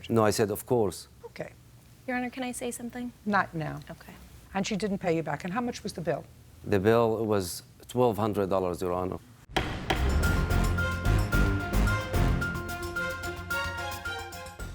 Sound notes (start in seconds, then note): 9.5 gavel bangs; 9.5 dramatic music